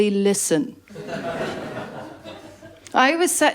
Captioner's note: laughter